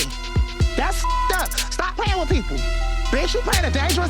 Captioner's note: beep